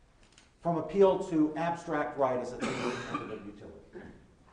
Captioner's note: coughing